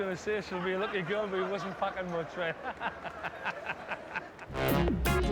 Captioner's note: laughs